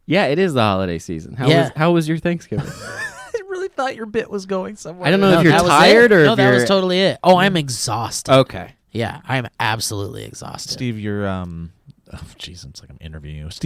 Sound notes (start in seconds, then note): 2.5 laughs